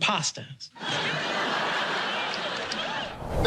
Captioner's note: laughter